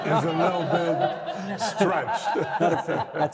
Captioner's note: all laughing